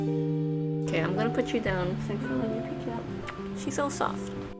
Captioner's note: smooch